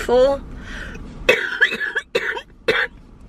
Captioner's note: coughing